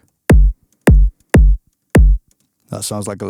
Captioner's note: person kicking